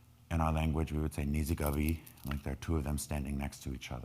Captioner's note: speaking in foreign language